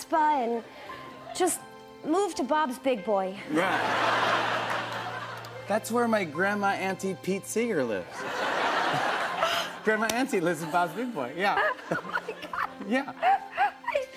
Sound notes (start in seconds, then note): 3.5 laughter; 8.2 laughter; 8.2 gasps